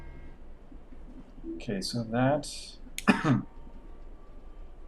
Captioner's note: coughs